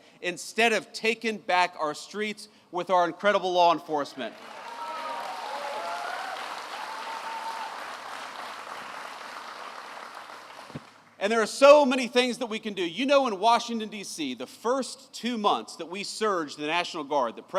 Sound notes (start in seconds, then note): 4.3 applause